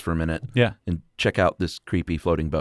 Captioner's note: voiceover